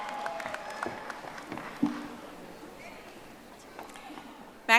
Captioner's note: audience applauding